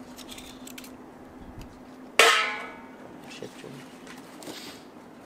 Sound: cutting noise

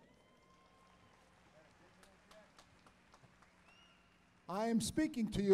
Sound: applause

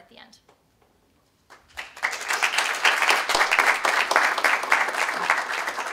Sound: applause

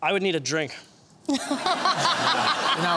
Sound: laughter

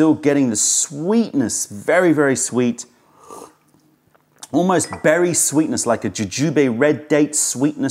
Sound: sips tea

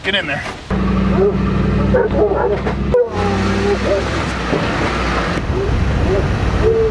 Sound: dogs barking and howling

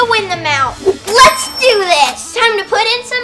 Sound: cash register sound

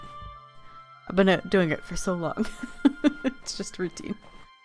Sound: laughs

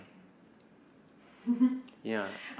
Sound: laughs

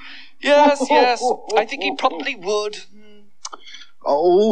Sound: Cauldron Laughs

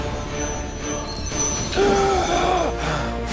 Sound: gasping

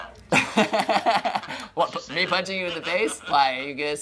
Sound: laughing

